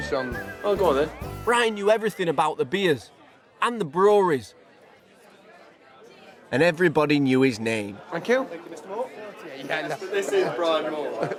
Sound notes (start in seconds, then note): 4.3 background chatter; 9.8 chuckles